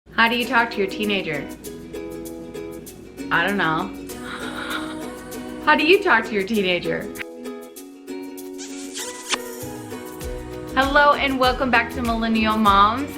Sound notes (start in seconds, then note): 4.2 laughs; 8.5 kiss